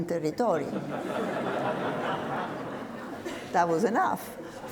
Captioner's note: audience laughs